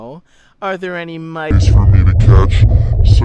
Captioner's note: distorted